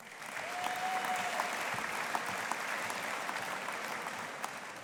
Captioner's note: audience applauding